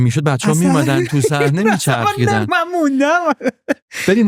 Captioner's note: laughs